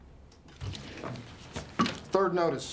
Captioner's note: pen scratching; door clatters open